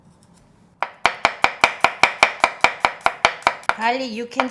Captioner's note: knife chopping